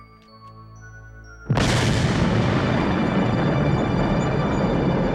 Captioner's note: explosion booming; dramatic music